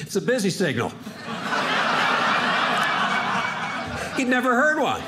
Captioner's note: audience laughing